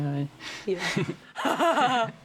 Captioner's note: both chuckle; chuckles